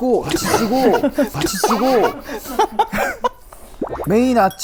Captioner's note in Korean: 푸흡